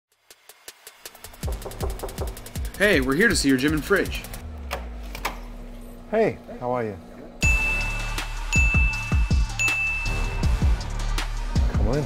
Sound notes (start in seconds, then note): 1.1 upbeat electronic music; 1.3 knocking; 7.4 bell dings; 7.4 rock music